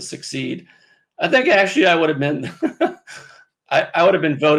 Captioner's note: laughs